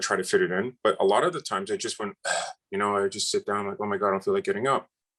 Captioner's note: ugh